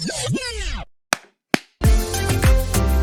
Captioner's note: claps